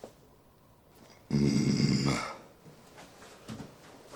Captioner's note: Polmen grunting